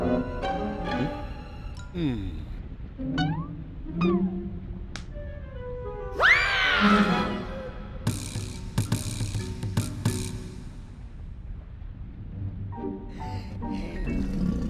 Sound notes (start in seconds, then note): 1.9 sighs; 4.7 slaps; 13.1 sighs